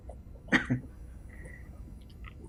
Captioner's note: coughs